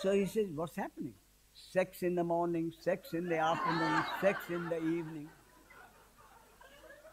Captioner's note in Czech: smích